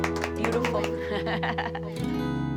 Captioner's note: laughs